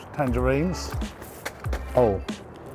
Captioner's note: clattering